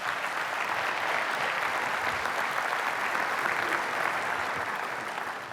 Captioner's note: applause